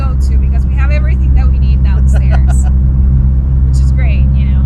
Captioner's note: laughs